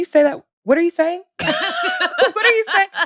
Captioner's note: laughs